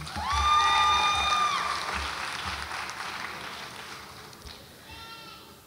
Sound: audience applauds and cheers

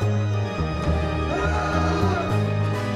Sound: scream

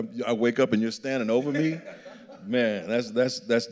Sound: laughing

